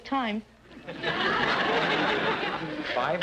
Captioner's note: audience laughter